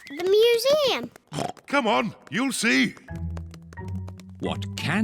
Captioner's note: oinks